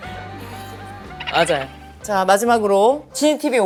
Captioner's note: chuckles; laughs